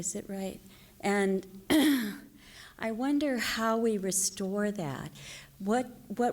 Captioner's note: clears throat